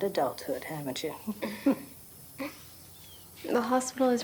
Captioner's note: both chuckling softly